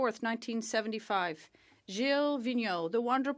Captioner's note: speaking French